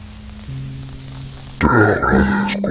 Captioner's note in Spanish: sonido gutural